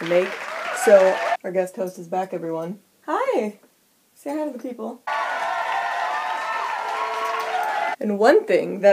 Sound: applause resumes

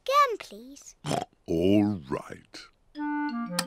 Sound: oinks

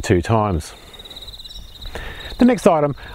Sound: birds chirping

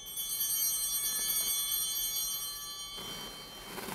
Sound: bell ringing

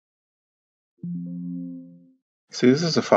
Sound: error sound

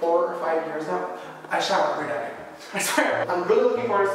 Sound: small gasp

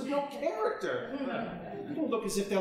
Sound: audience chuckling

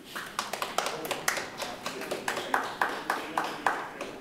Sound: group clapping

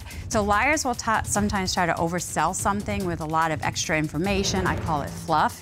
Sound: none

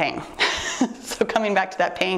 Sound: laughs

